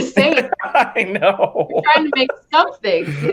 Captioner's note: laughing